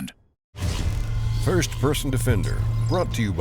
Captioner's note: voiceover